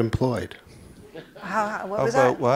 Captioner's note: laughter